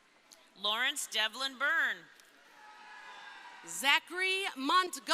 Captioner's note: crowd cheering